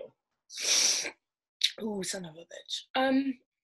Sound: inhales sharply

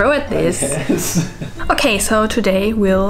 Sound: laughing

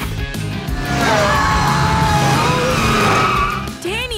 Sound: screaming

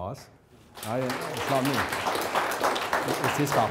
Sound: audience applauding

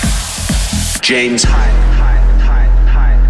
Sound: upbeat EDM music; voiceover

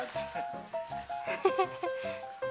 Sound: laughter

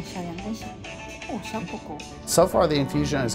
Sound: speaking foreign language

